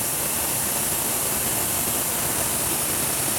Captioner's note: flames hissing